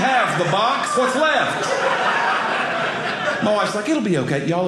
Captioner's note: audience laughing